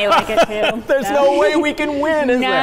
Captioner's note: laughing